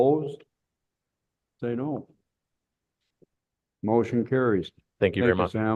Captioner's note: silence